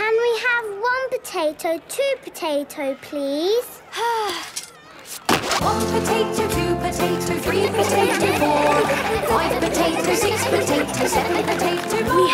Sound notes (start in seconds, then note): 3.9 Belinda sighing; 7.5 laughter